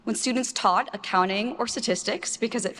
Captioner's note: none